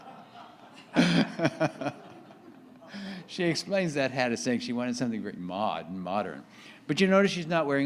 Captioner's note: laughs